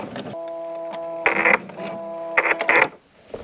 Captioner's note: whirring, short creaking